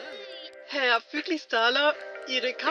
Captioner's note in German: Stimme aus Video Call